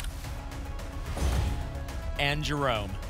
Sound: whoosh; thump

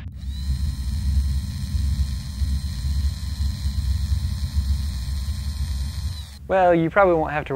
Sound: machine whirring

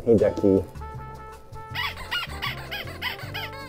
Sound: squeaky toy noise

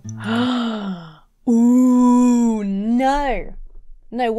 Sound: gasps

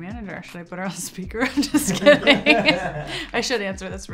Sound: laughs

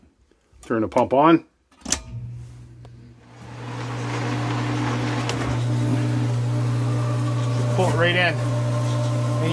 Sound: pump Running

